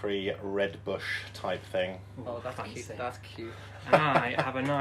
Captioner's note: laughter